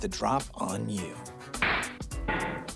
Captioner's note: object thudding; toy gun banging